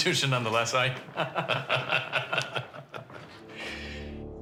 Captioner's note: chuckling